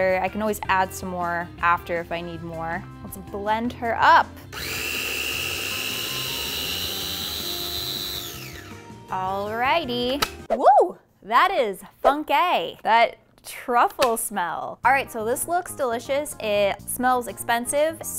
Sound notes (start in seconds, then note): 4.5 food processor whirring